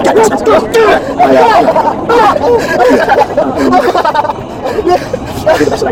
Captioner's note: laughter